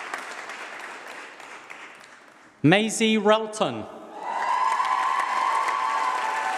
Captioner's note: applause